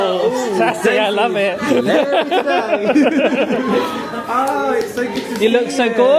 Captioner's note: laughing